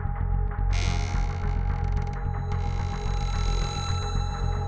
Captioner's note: door creeks